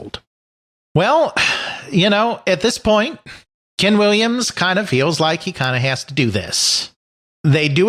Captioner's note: exasperated sigh